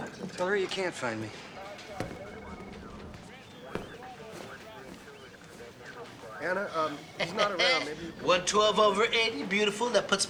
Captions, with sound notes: Tell her you can't find me. Anna, um, he's not around. Maybe you could... (laughs) 112/80. Beautiful.